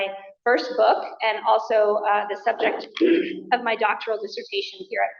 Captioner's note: coughs